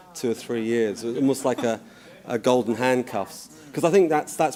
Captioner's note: laughter